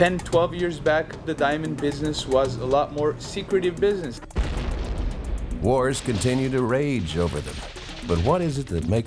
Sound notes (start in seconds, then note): 0.3 upbeat drumming; 4.3 bomb exploding; 7.1 machine gun firing